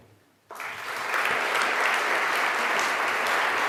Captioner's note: applause